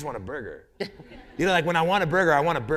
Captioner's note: laughter